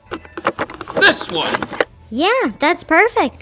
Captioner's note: stuff clattering